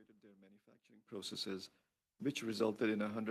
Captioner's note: speaking French